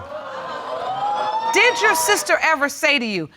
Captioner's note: audience cheer